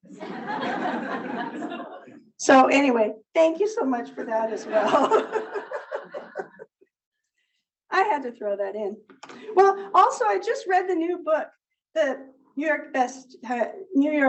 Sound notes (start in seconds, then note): 0.0 audience laughs; 4.6 laughs